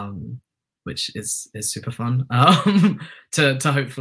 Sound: chuckles

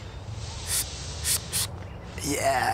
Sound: wheezes

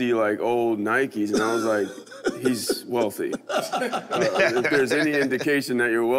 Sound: laughs

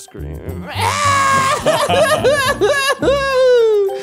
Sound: screaming

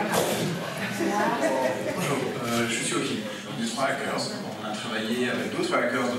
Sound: laughing; speaking in a foreign language

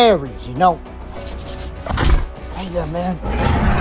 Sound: Ares Huffs

